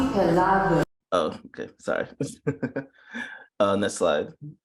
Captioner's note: chuckles